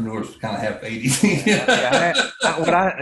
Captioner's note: laughs